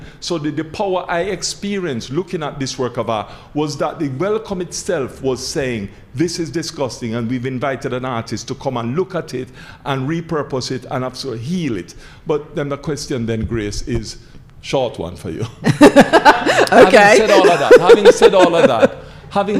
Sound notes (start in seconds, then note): 15.6 laughing